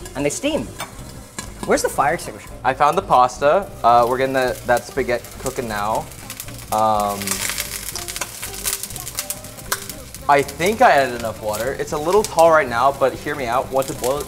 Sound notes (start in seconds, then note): 6.1 popping